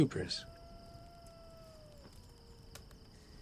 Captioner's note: coyote howling in distance